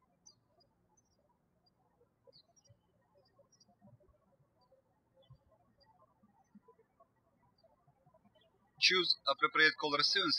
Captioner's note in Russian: птички щебечут